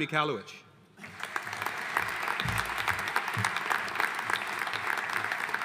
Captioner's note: audience applauding